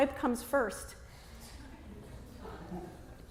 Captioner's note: light Chuckling